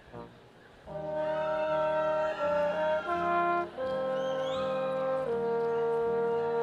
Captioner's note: brass quintet music; audience applauding